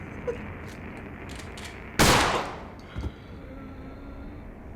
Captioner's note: gun firing